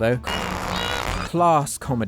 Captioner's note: flatulence